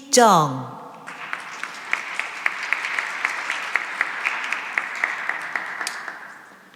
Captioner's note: applause